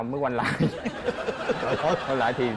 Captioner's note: laughing